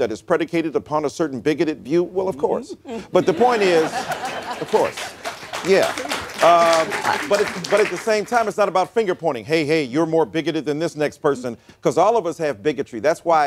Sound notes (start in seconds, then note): 3.0 laughter; 3.7 applause